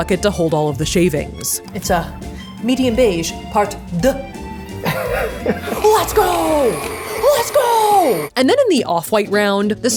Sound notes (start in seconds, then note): 3.5 speaking in French; 4.8 laughing